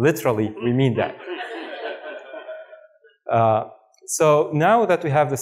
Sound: audience laughing

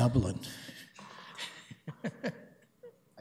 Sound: laughing

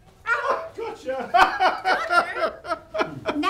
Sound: ha ha ha

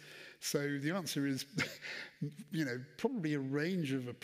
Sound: chuckles

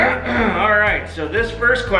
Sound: clears throat

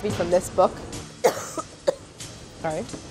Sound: coughing

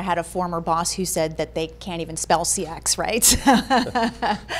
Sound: laughing

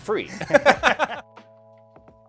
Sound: both laughing; light ambient music

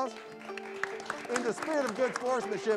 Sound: audience applauds

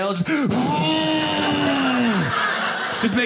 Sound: dramatically exhaling

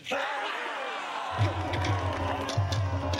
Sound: cheering

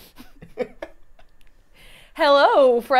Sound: laughs

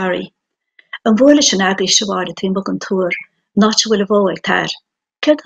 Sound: speaks irish

